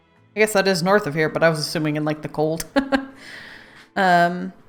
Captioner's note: laughs